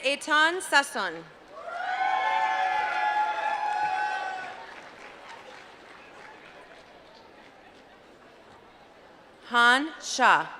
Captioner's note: applause